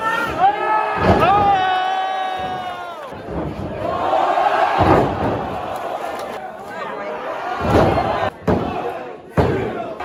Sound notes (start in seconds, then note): 1.4 crowd cheers; 4.7 crowd cheers; 7.6 crowd cheers; 8.3 crowd counts